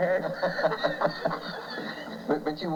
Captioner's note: laughter